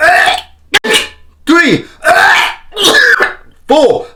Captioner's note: coughing